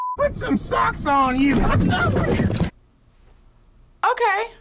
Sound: grunts

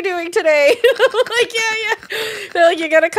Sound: laughing

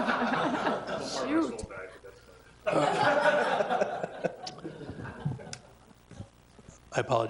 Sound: attendees laughing; attendees laughing

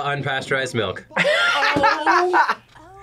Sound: laughs

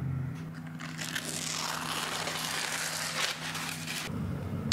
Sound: crunchy paper peel

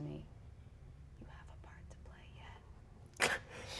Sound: whispers; laughs

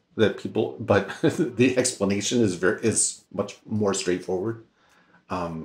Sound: laughs

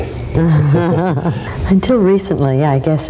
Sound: both laughing

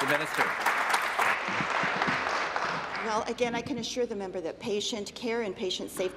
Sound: applause

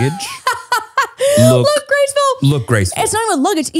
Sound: laughs

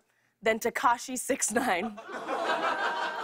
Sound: light laughter

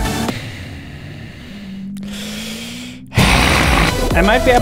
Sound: annoyed Sounds

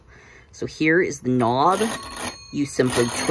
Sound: bell ringing

